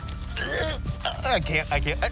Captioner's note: retches